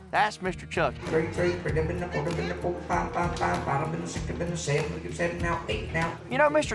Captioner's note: auctioneer chanting